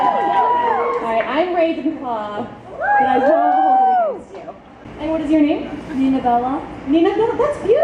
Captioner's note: audience cheers